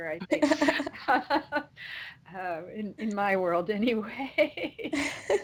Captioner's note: laughs